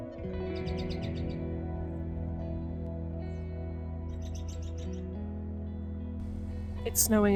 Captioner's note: robin vocalizations